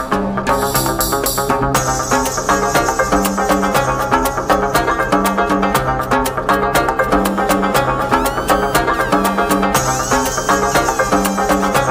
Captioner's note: screaming